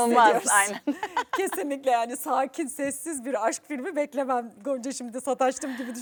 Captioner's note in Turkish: kahkaha